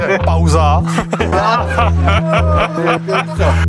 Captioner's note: laughter